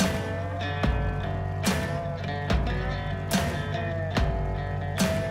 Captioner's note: boat motor running